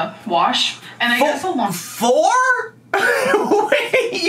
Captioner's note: laughs